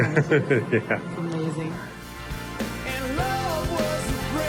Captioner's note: laughs